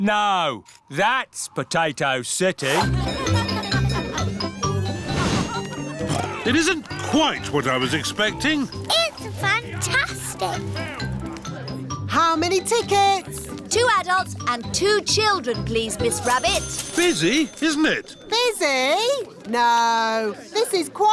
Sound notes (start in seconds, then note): 3.6 cheerful jingling; 6.5 oinks